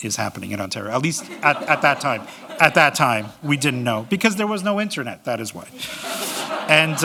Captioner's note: laughter